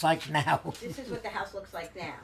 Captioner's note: laughing